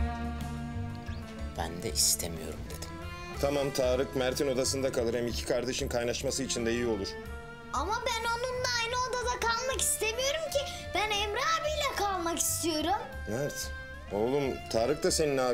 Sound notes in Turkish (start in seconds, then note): none